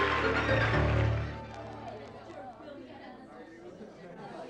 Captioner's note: crowd murmuring